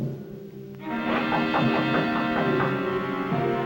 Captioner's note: knocks